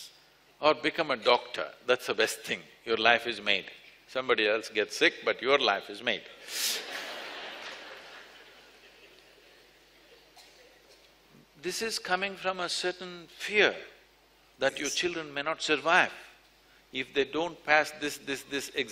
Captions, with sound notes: Or become a doctor, that’s the best thing, your life is made. Somebody else gets sick but your life is made (Laughter). This is coming from a certain fear that your children may not survive. If they don’t pass this, this, this examination,